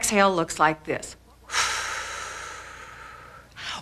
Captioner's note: breathing